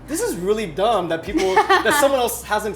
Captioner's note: Megan laughs